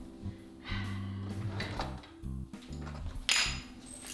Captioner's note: sigh